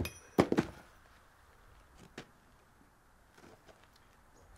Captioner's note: badge clinks